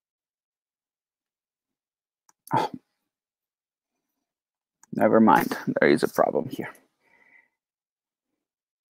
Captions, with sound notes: (SIGHS) Never-mind. There is a problem here.